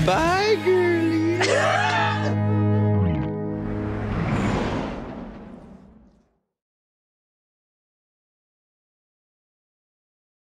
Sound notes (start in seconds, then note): 1.2 laughs; 1.6 soft guitar music